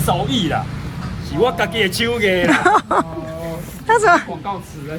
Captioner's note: haha